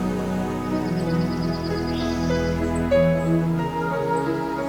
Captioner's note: birds chirp